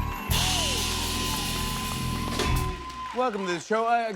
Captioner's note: cheers and applause